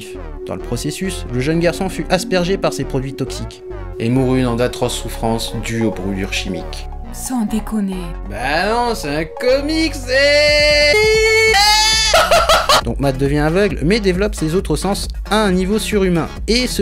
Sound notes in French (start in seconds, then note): 9.8 hurlements de joie